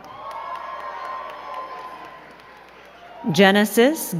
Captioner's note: crowd cheering and clapping